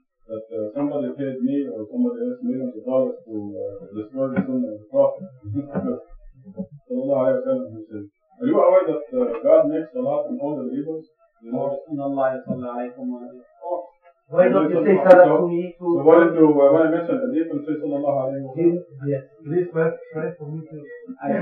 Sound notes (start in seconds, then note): 11.4 speaking Arabic